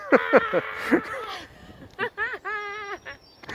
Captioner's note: various laughs and screams